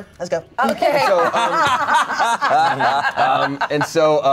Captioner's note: everyone laughs